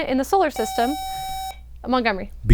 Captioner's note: buzzer